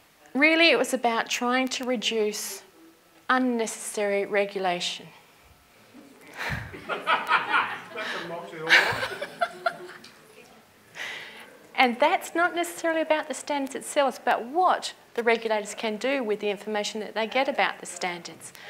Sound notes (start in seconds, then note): 6.3 audience laughter